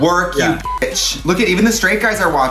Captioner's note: beep